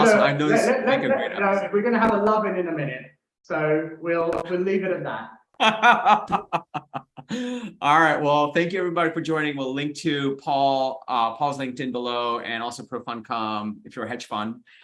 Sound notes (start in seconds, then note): 5.6 chuckles